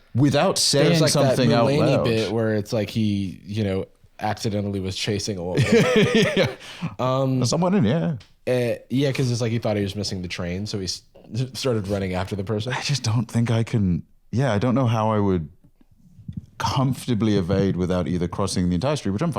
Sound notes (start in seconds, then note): 5.6 laughs